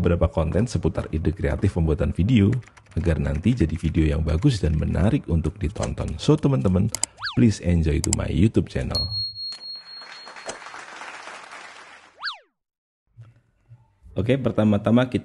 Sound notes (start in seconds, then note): 9.7 applause